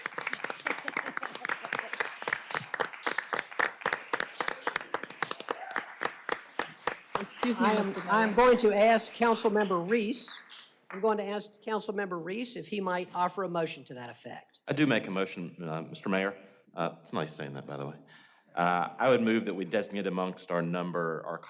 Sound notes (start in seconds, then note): 4.8 cheers and applause